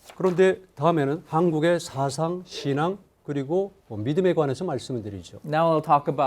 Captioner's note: speaking in Korean